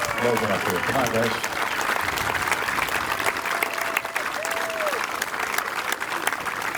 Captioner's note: applause